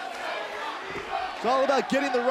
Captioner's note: fans chanting